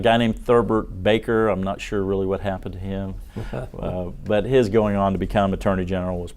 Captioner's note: laughter